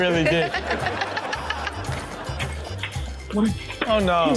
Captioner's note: all laugh